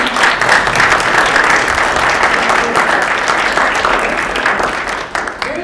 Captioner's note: clapping